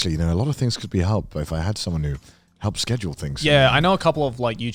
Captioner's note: none